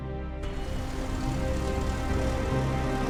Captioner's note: propeller whirs